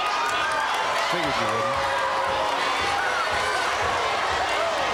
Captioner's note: audience cheering